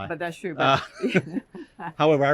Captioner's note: laughter